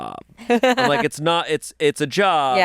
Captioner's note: laughs